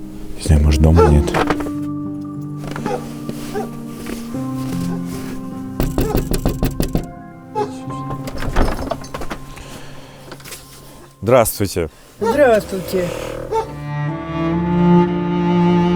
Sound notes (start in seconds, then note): 5.7 knocking; 7.5 door squeaking